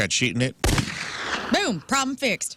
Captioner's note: gunshot